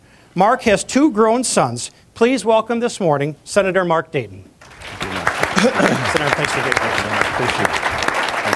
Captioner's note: applause